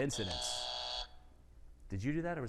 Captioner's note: buzzer buzzing